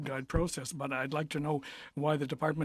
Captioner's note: speaking French